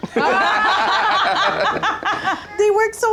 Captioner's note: laugh